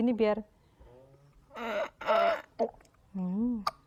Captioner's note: sound of swallowing milk